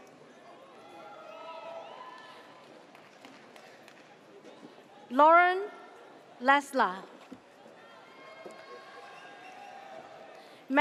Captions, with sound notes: (audience cheers) Lauren Lesla.